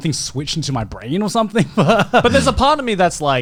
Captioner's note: laughs